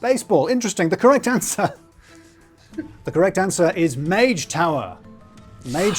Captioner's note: chuckles